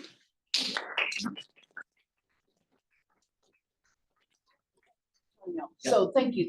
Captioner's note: clapping